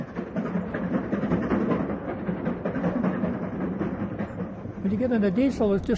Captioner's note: steam engine chugs